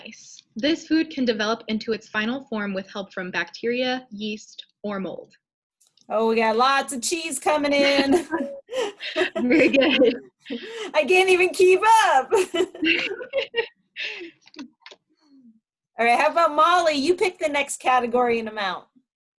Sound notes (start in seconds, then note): 7.8 laughs; 13.2 laughs